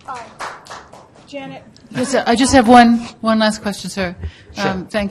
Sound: voiceover

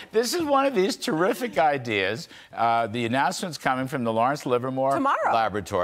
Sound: laughter

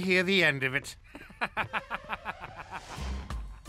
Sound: evil laugh

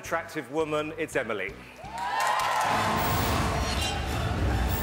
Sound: audience Cheering

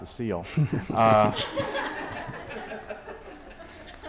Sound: laughter

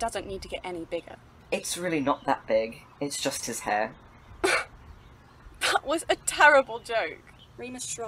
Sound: surprised huff of laughter

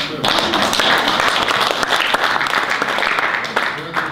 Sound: audience applause

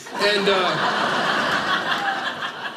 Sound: audience laughing

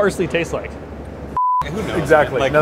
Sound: beep

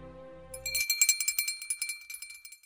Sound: bell ringing

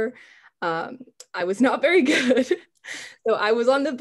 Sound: laughs

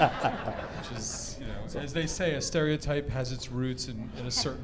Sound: laughter

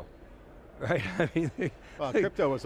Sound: laughs

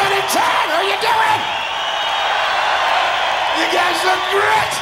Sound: crowd cheering

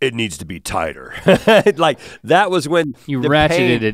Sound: chuckles

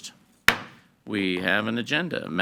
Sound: gavel thuds

